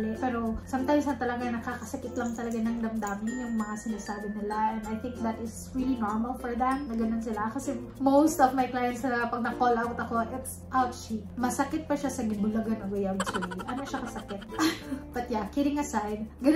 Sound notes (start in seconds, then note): 11.2 speaking native dialect